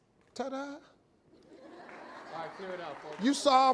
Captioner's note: audience laughing